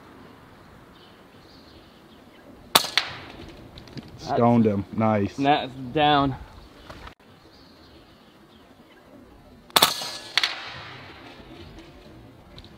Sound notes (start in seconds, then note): 2.7 clanging shot; 9.7 echoing shot